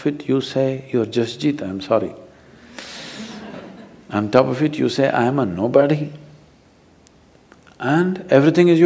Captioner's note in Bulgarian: смях в публиката